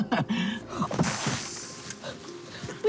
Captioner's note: both chuckle; gasps